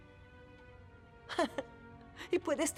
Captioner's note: chuckle